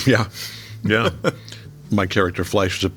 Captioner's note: laughing